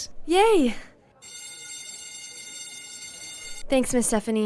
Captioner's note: bell rings